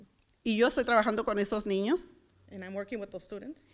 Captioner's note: foreign language